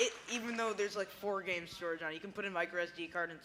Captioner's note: cheers and applause